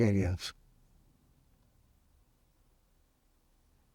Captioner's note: pauses 6 seconds